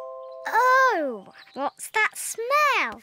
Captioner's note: none